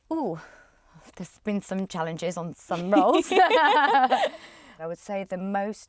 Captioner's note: laughs